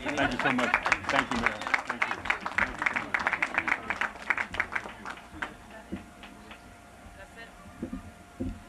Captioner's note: applause